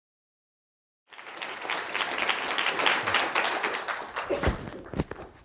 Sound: applause

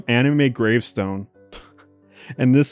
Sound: chuckles

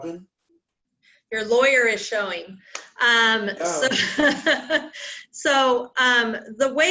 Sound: laughter

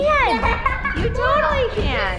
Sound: girl laughs

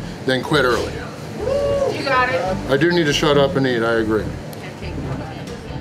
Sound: crowd

